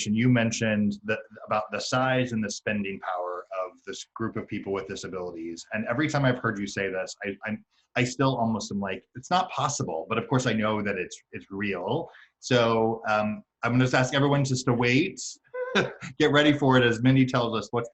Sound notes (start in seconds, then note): 15.6 laughs